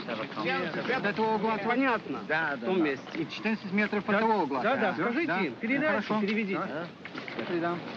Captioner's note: speaking in foreign language